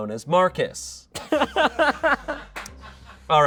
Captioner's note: audience laughing